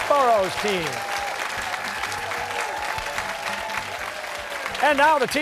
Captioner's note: cheers and applause